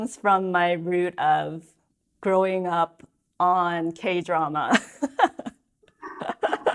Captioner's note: laughs